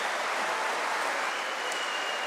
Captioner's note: applause